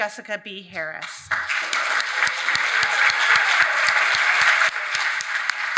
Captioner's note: audience applauding